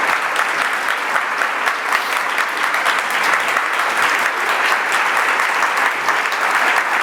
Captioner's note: applause